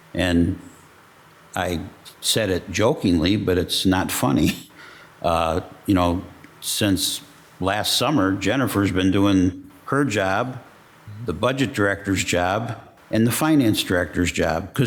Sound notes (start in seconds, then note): none